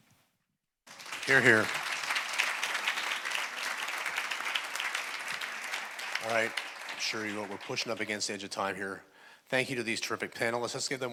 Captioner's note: applause